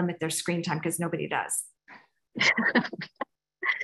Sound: laughs

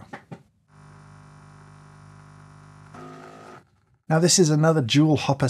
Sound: coffee machine whirring

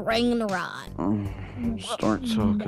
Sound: moan

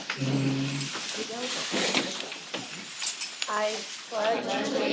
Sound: chairs creaking

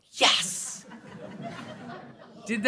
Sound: laughter

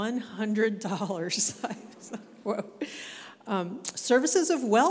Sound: chuckling

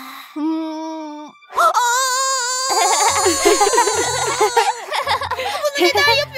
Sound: laughing

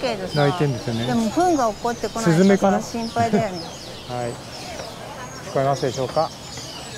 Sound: laughs

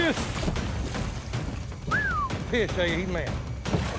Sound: whistles

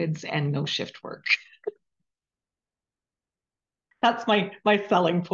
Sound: chuckling

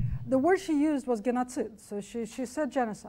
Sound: speaks foreign language

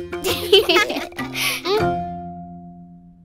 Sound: laughing

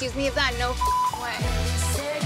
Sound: melodic music; beep

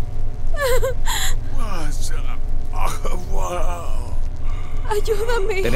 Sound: Mark habla un idioma extranjero

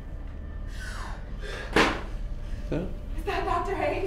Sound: gasp

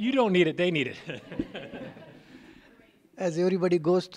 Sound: laughter

